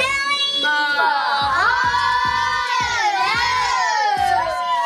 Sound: children chant

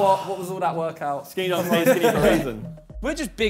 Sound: laughs

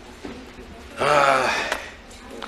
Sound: Frank sighs

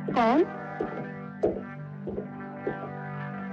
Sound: footsteps Approaching

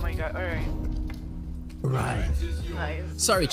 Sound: hoarsely

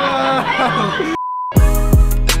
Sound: laughs; beep; upbeat music

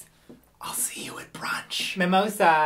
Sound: whisper

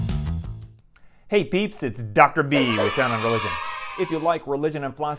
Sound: kids cheering

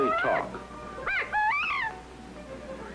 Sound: bobwhite sounds

